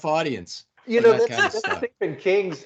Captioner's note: laughing